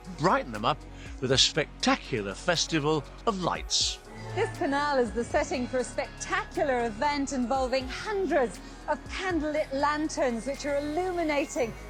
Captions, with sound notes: brighten them up with a spectacular festival of lights! (TV sound - voiceover) This canal is the setting for a spectacular event involving hundreds of candle lit lanterns, which are illuminating